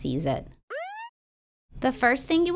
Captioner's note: siren beeps